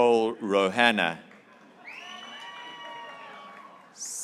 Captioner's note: graduates cheering